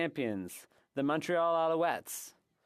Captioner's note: speaking French